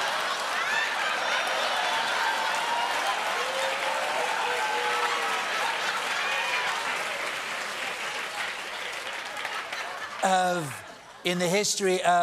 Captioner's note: laughter